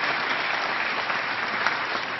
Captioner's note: applause